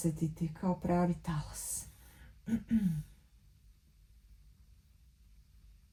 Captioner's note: coughs